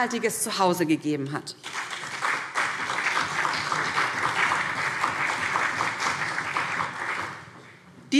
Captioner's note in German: Beifall BÜNDNIS 90/DIE GRÜNEN und CDU